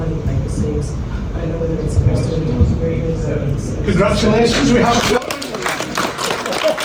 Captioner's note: applause